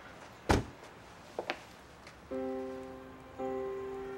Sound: door closes; contemplative piano music

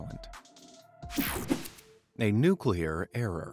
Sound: screen whooshing

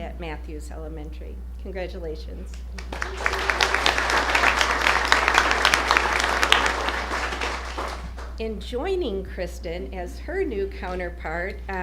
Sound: applause

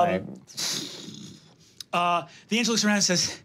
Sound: blows air

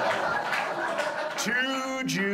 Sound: audience laughs

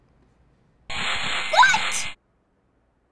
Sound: saw buzzes

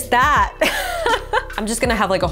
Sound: laughing

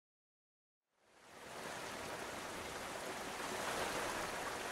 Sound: running water

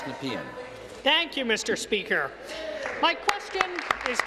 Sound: applause

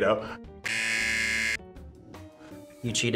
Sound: buzzer rings

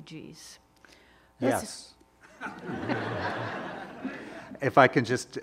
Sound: all laughing

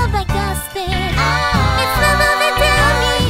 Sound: aah

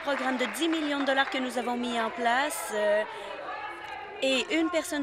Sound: applause

